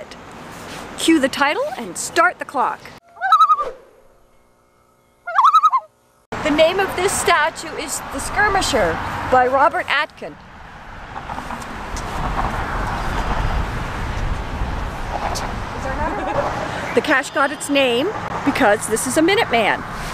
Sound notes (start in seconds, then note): 3.0 loon call; 5.2 loon call